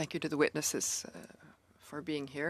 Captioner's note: speaking in French